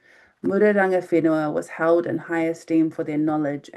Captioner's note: speaking in foreign language